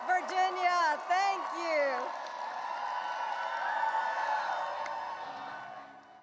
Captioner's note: audience cheering and applauding